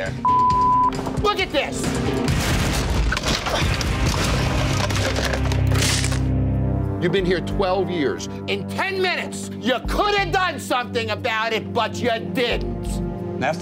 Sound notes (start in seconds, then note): 0.2 beep; 3.1 wood rattling